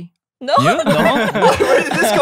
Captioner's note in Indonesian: tertawa